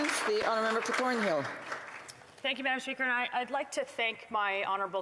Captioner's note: some Applause